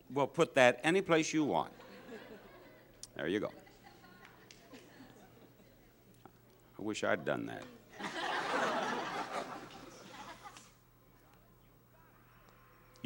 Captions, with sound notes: Well, put that any place you want. There you go. I wish I'd done that. (audience laughs)